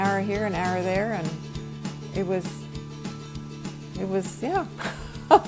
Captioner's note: laughs